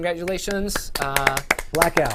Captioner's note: applause